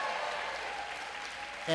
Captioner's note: applause